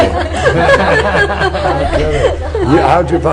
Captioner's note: laughter